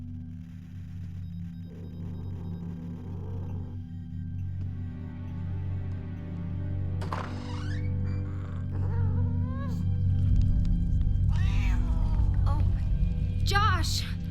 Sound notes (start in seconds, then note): 7.0 door creaks; 8.0 critter mewling